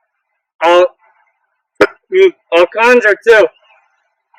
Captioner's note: burp